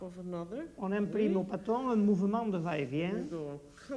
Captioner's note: speaking French